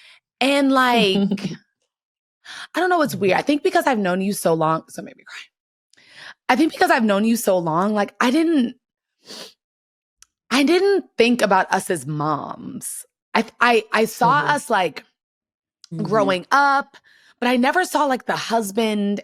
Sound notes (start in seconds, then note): 8.9 sniffles